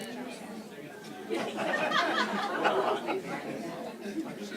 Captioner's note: laughter